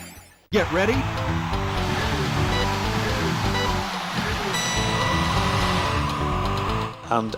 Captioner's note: car engine revving